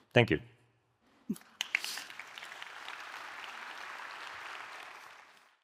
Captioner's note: audience applauding